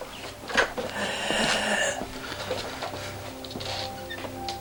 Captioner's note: labored breathing